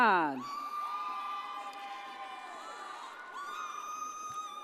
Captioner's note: audience cheers